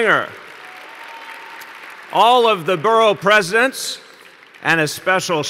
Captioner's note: applause